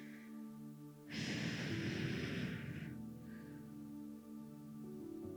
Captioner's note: sharply exhaling